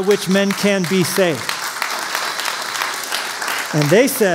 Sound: applause

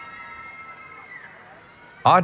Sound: cheering

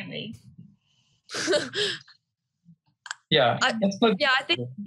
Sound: laughs

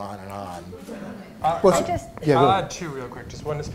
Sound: laughter

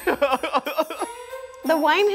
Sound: laughing

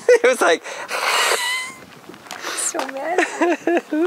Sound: hissing

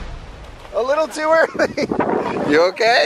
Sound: laughing

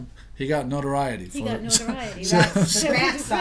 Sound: voiceover

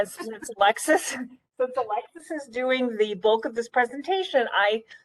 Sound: laughing

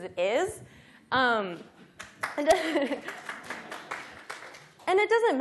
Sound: audience applauding

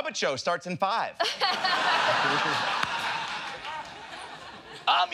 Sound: laughter

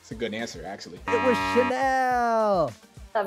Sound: buzzer beeps

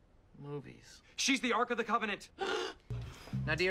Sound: ABED gasps

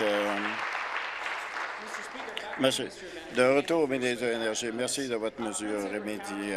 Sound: applause

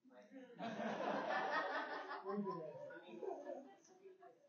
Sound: audience laughing

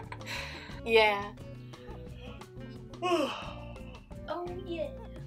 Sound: laughs; yawn

